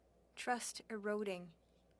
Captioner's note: speaking French